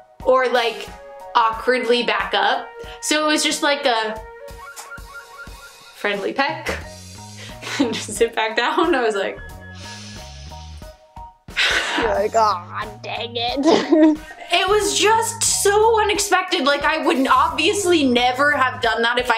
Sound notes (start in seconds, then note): 6.6 friendly peck; 9.6 deep breath; 13.5 laughs